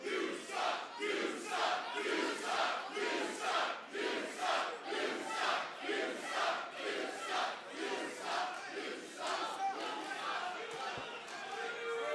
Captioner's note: fans chanting